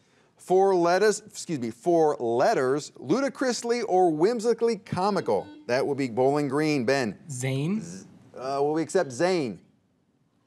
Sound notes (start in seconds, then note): 5.2 buzzer beeps